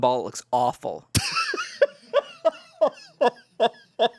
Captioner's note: laughs